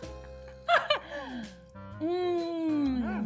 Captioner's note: both laughing